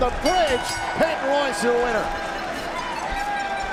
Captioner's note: bell ringing